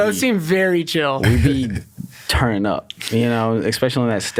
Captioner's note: laughs